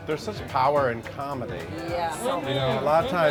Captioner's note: overlapping agreeing